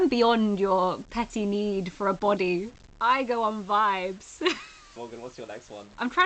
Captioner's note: laughs